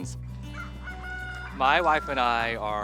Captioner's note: rooster crowing